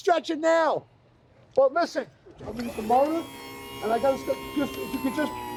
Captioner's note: continues under whining motor